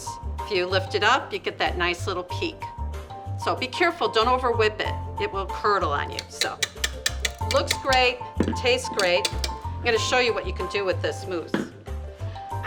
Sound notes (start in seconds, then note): 6.2 clanking; 11.5 clanking